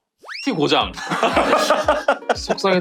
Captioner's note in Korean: 웃음